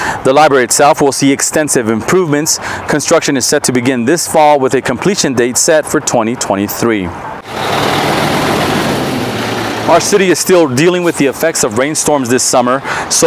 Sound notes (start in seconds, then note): 7.4 engine revving